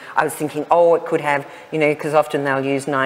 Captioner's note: none